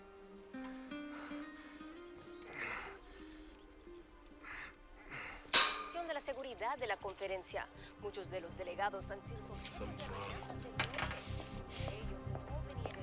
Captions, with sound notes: [light acoustic guitar music] [reporters speaking in Spanish] Something’s wrong.